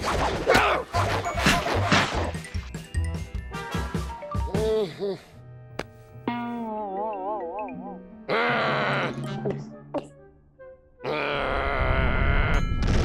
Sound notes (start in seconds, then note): 4.4 groans; 8.0 growling; 8.3 gulps; 10.7 growls